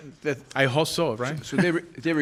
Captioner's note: chuckles